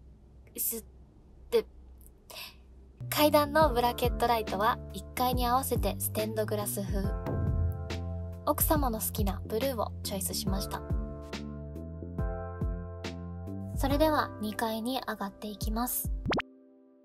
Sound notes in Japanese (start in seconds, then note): 2.3 息を吸う音